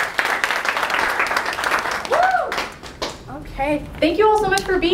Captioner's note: applause